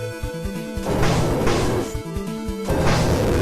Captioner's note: low-pitched growling; low-piched growling, zombies moaning